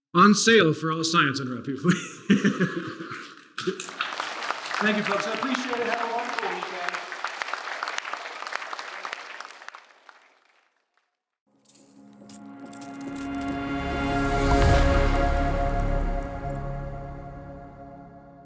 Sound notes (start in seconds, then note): 3.1 applause; 11.7 audio logo